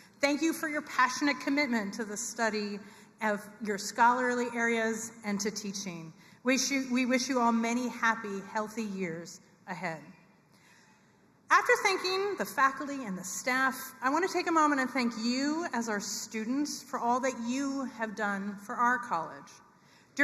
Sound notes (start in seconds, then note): none